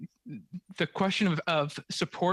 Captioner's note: speaking French